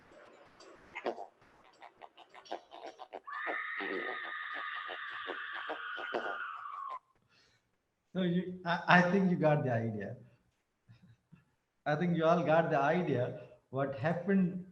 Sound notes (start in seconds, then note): 6.2 more flatulence imitation; 6.2 woman screams